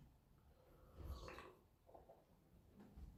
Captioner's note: slurp